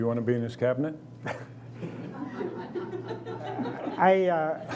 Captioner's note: laughing